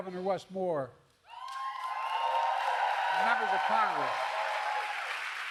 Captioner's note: applause